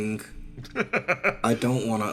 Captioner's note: laugh